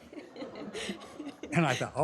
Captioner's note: laughter